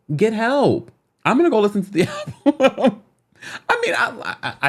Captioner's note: laughs